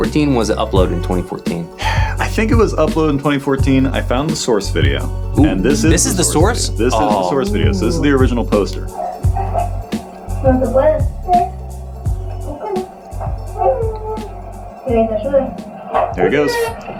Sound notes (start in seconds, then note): 12.3 baby chattering